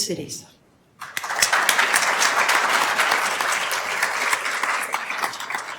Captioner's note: attendees applauding